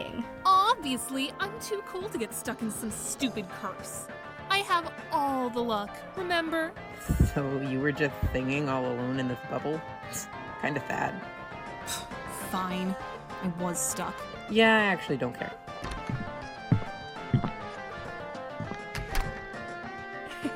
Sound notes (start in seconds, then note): 17.2 door opening and footsteps; 18.5 door closes